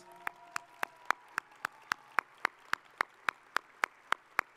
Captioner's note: audience applauding